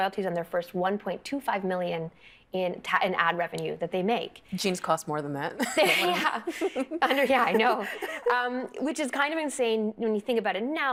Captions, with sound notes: on their first $1.25 million in ad revenue that they make. Jeans cost more than that. (Laughing) Yeah. I know. Which is kind of insane when you think about it now,